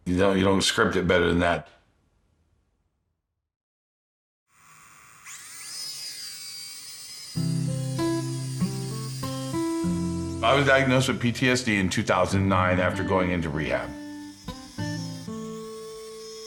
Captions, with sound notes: You know, you don't script it better than that. (drone zipping) I was diagnosed with PTSD in 2009 after going into rehab.